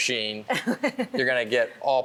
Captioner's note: laughing